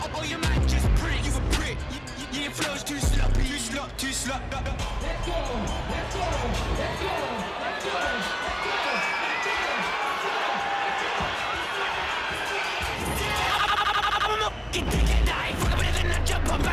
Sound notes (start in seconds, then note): 8.2 crowd cheering; 14.8 rap music